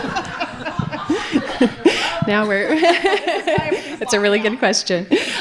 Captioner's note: audience laughing